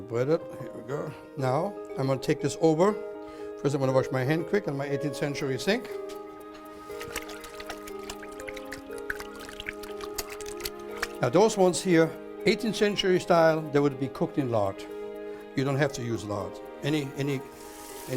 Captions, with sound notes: bread it. Here we go. Now, Im going to take this over. First, Im going to wash my hand quick in my 18th century sink. [splashing noise] Those ones here, 18th century style, they would be cooked in lard. You dont have to use lard. Any